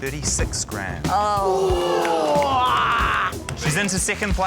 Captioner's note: audience exclaims; grunts